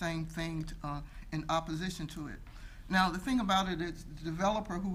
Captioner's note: none